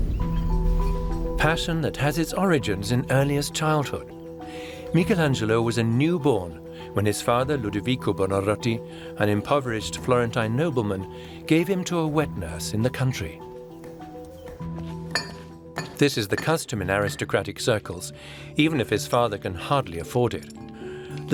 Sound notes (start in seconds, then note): 0.0 intrigue music; 13.3 faint rhythmic banging; 13.3 light piano music plays